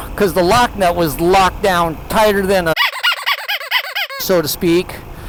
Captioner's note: squeaky toy sound effect